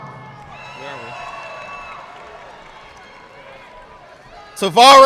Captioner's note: audience clapping